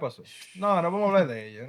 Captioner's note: speaking Spanish